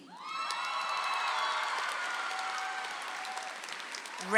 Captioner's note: audience applauds